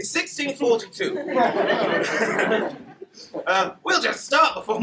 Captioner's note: laughter